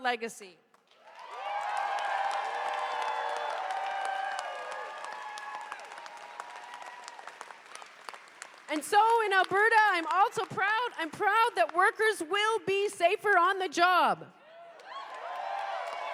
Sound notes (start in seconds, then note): 4.6 cheers and applause